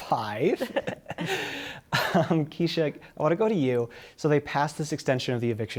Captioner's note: laughter